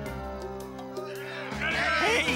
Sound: villagers clamoring

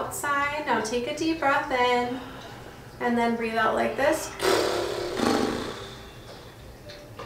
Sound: blowing raspberries

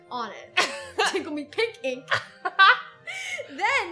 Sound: both laugh

